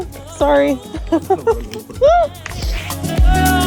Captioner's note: laughs; upbeat music